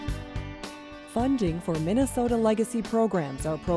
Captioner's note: voiceover